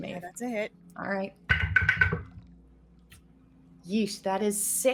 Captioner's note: dice rattling